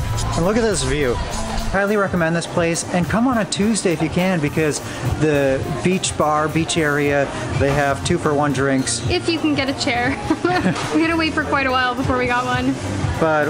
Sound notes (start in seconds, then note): 10.0 laughs